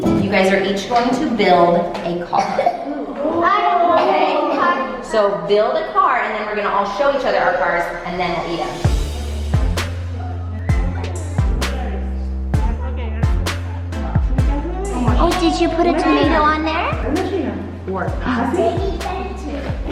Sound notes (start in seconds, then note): 3.0 kids wowing; 8.8 upbeat electronic music